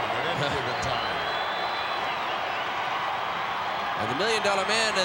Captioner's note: applause